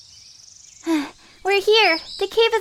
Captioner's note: gasping